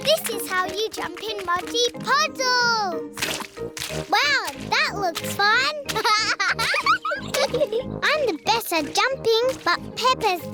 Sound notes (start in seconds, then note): 4.4 laughs; 5.9 both laugh